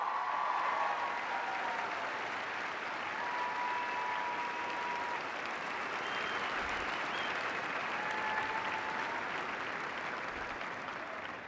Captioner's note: cheers and applause